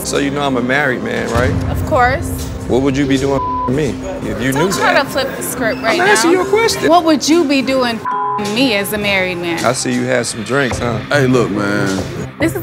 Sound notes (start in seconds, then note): 3.4 beep; 8.0 beep